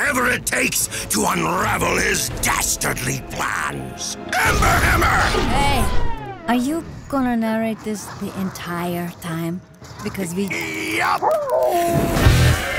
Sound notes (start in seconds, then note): 11.1 howls